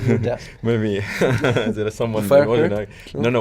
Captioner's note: laughs